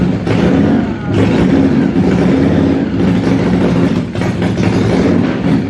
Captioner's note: engine revving up